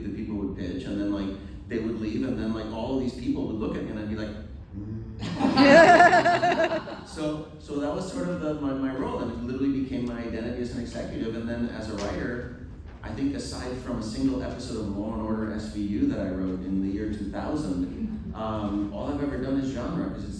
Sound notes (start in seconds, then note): 5.2 laughter